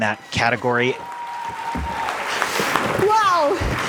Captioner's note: audience claps and cheers